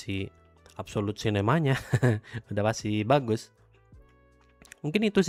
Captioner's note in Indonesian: tertawa